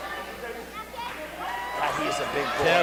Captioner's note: cheers